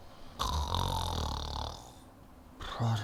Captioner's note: snoring